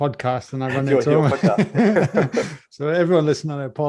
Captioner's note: laughs